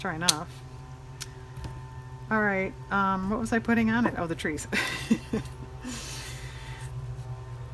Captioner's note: laughs